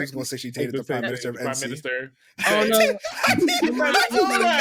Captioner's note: laughing